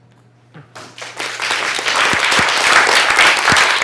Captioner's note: applause